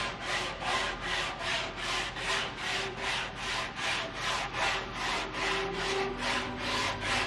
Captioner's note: sandpaper scrapes; gentle uplifting music